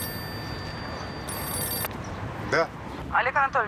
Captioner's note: phone ringing